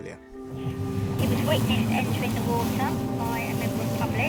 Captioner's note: voice On Radio